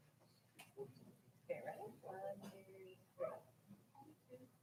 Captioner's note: people chattering